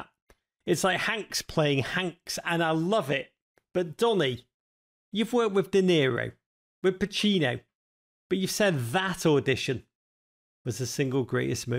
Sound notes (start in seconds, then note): none